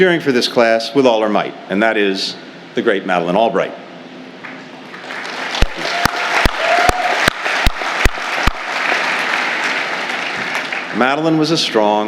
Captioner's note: applause